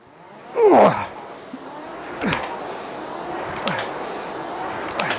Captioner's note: grunting; grunting